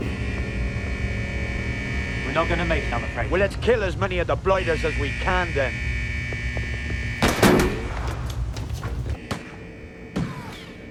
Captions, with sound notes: (alarm buzzing) - We're not going to make it, I'm afraid. - Well let's kill as many of the blighters as we can then. (guns firing)